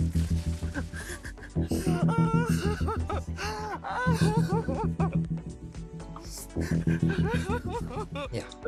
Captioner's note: Pangina crying off stage